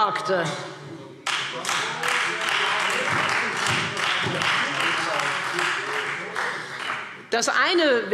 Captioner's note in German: Beifall Freie Demokraten